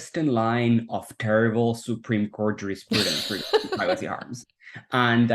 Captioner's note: laughs